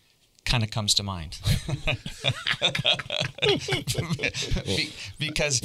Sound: everybody laughing

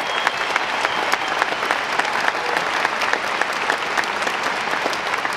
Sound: audience clapping

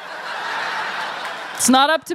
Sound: laughter

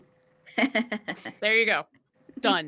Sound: laughs

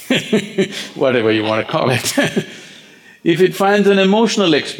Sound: laughs

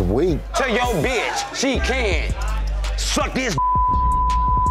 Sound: beep

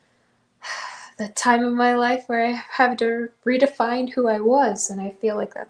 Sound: sigh

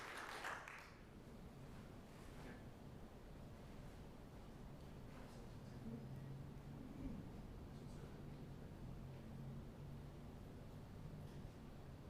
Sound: applause

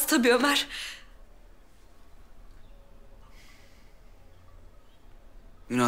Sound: silence

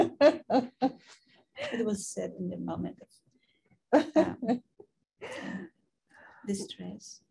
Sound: laughing; woman's Voice

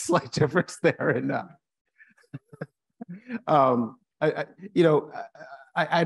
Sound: continues laughing

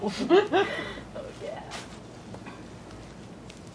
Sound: laughter; gasp* Oh yeah

